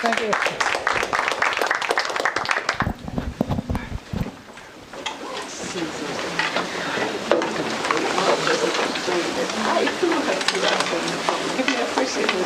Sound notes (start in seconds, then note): 4.4 indistinct conversation